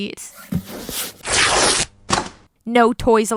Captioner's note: stuffed animal getting torn apart noises